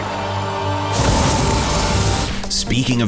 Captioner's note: dramatic music; explosion sound